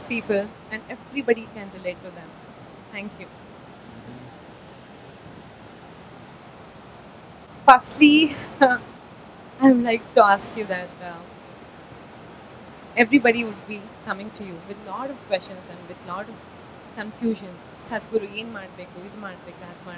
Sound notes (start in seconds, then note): 8.2 speaks in Kannada – not transcribed